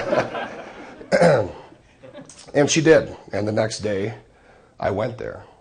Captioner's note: laughing